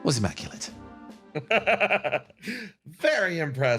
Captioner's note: laugh